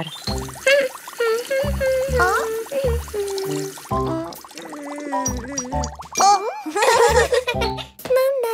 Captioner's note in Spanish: Risas